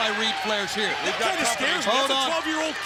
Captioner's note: overlapping chatter